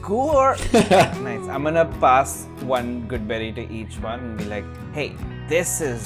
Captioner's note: laughter